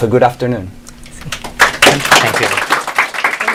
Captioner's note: applause